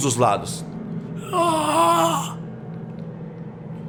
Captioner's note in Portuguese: Grunhido